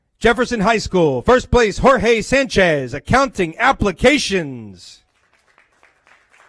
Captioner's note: applause